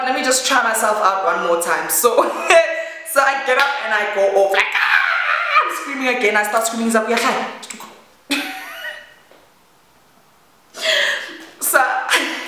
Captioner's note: screaming